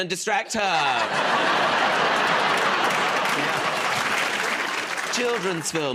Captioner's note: laughter